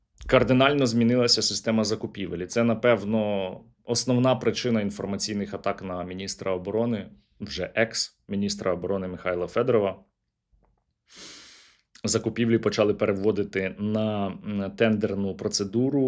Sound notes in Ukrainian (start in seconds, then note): 11.1 сопіння